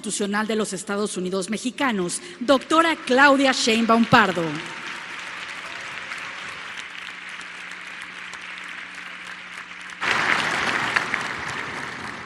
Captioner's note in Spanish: aplausos